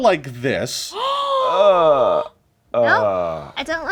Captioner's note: Omelette gasps; Ikyulus groans